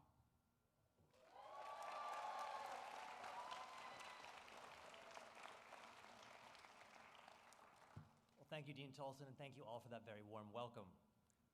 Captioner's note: applause